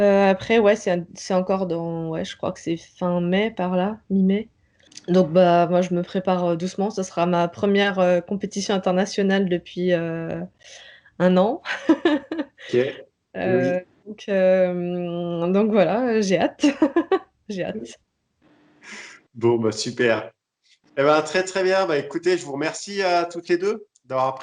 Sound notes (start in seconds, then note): 11.7 laughs